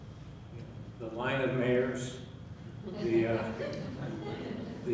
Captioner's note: chuckling